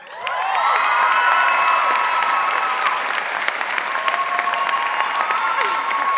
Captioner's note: audience applauding and cheering